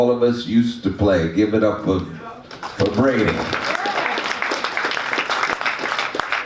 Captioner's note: audience claps